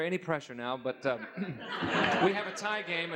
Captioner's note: laughs